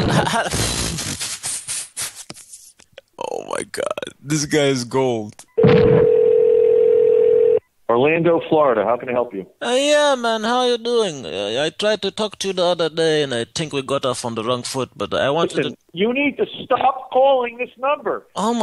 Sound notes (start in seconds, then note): 0.0 laughter; 5.5 telephone Ringing